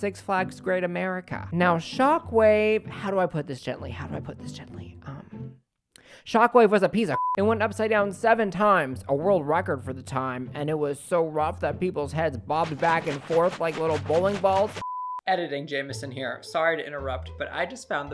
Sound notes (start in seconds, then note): 7.2 beep